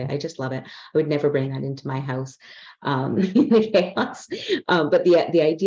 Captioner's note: laughs